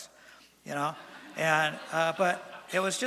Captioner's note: laughter from audience